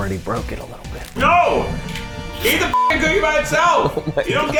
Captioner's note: beep